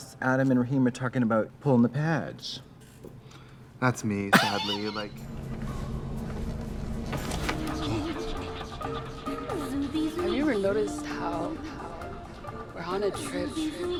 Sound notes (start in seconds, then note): 4.3 Katya laughs